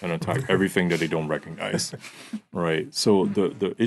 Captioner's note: laughing